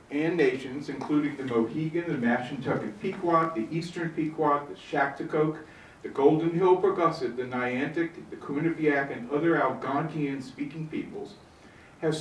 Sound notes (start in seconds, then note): none